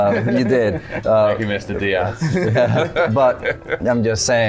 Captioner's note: laughter